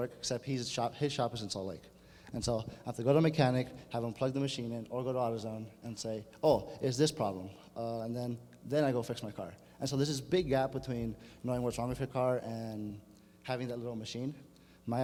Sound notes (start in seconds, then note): none